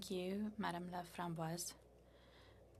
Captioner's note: speaking French